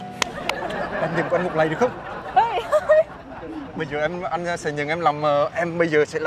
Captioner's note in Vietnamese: Tiếng cười